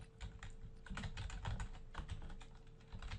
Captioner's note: typing on-screen